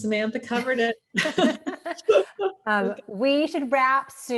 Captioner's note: women laughing